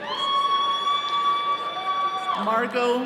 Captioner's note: attendees cheering